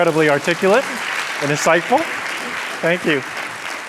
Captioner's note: applause